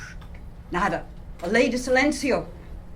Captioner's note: non-english speech